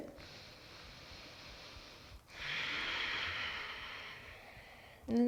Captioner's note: deep breathing